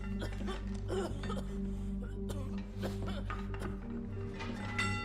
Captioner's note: coughing